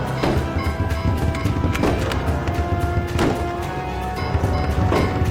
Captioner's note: kick thudding; gun cranking